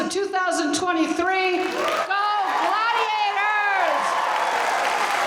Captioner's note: audience cheering